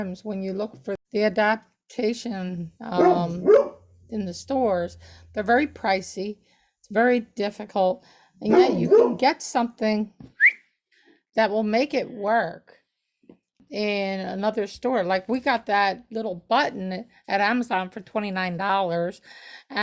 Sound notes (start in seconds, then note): 8.5 barking Dog; 10.3 whistles